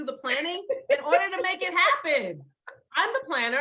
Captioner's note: laughs